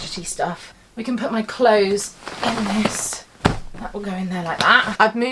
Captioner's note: clothes thudding